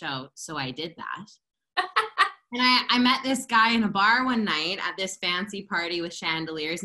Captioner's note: laughter